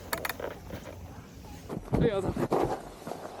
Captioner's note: sound of riding